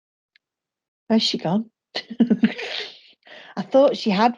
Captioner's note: chuckles